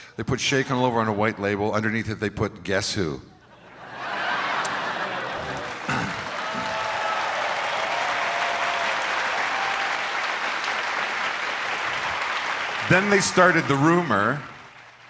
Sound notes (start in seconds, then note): 3.4 crowd laughs; 5.8 clears throat